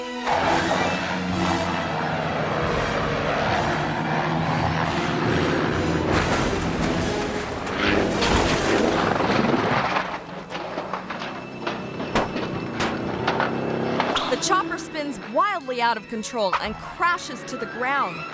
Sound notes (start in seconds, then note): 0.1 propellers rattling; 0.2 helicopter revving; 6.4 helicopter thudding; 10.5 helicopter clanging